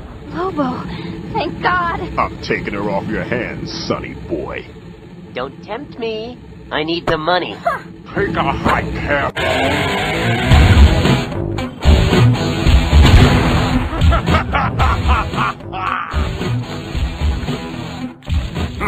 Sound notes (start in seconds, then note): 12.8 explosion; 13.8 laughing